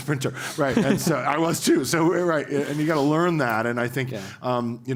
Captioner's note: laugh